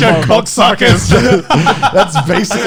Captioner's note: laughing